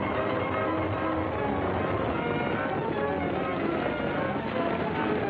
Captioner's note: horses galloping; wagon rattling; wheels crunching